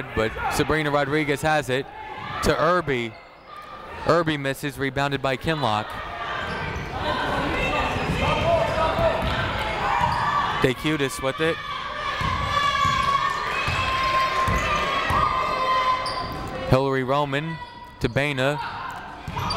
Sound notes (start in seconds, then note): 6.6 people shouting in the crowd; 12.4 people shouting in the crowd